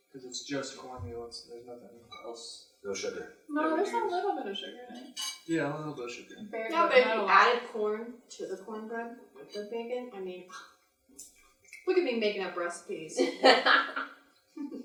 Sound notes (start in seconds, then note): 13.1 laughs